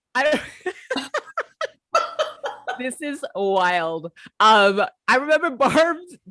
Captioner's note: laughter